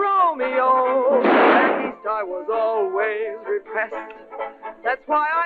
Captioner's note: gunshot